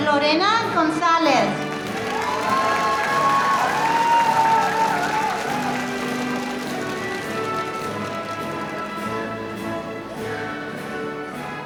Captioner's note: applause